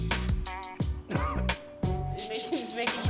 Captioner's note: coughs